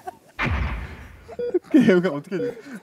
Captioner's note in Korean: 오열